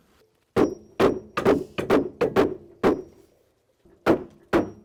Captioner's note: hammering